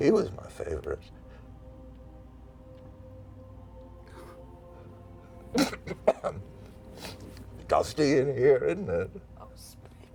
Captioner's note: coughs and sniffles